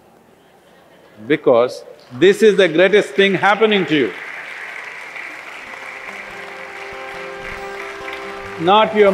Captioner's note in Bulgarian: Ръкопляскания